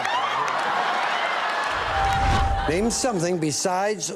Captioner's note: laughter